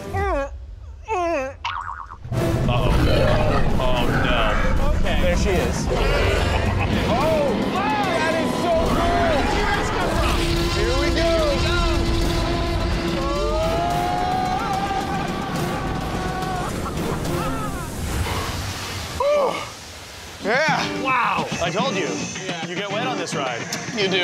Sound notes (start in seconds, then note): 5.8 dinosaur roaring; 12.4 men yelling